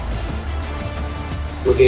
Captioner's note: crowd Noises